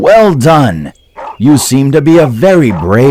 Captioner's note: dog barking